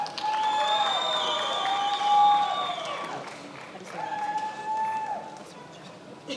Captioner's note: attendees applauding and cheering